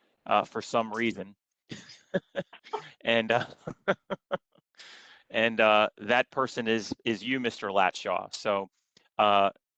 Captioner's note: laughter